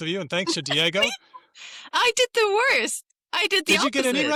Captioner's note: laughs